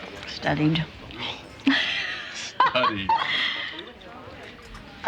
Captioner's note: laughs